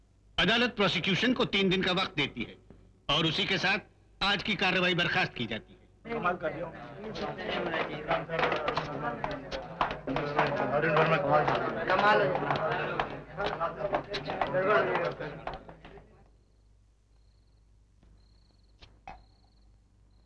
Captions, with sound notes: The court grants three days time to the prosecution. And with this the court is adjourned for the day. (Indistinct chatter)